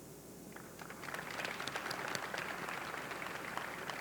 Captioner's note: audience clapping